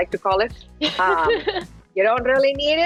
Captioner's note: laughs